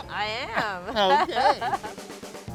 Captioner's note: laughs